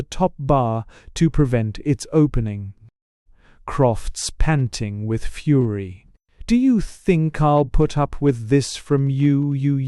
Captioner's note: with cheerful politeness